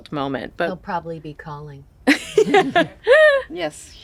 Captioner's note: all chuckle